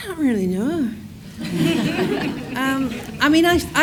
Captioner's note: audience laughs